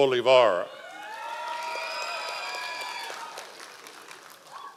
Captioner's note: audience applause